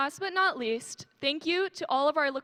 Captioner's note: none